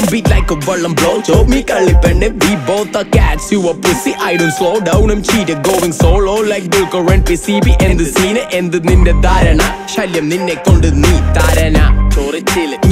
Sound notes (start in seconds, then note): 4.1 meow